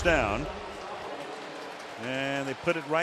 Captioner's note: pa announcement